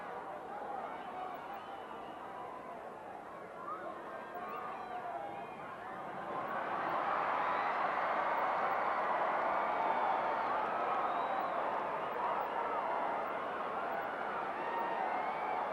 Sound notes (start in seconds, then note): 8.6 audience cheering continues